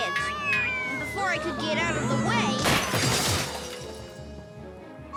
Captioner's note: big kid crashes